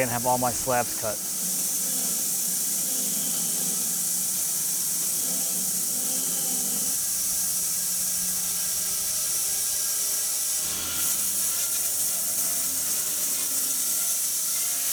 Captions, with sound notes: and have all my slabs cut. (saw whirring) (saw buzzing)